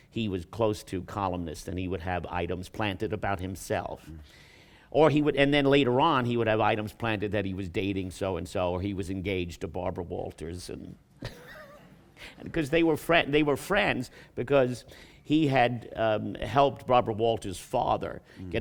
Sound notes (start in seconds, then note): 11.2 laughs